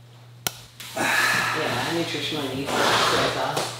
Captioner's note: sighs